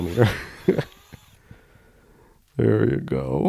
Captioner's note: laughs